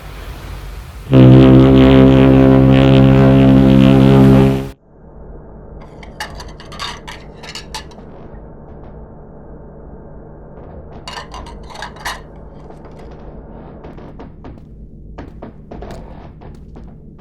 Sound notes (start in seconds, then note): 1.1 the whistles honk their deep tone; 6.1 plates clatter in the pantry. The ventilation drones on, the paneling groans